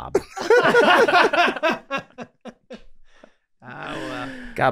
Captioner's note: group laughing